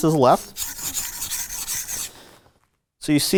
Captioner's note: knife scrapes